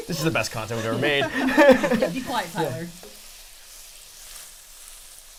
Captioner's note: all laughing